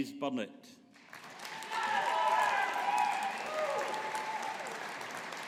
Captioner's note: audience applauding